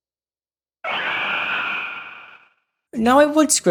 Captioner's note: roar